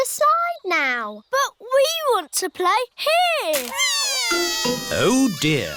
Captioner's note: crying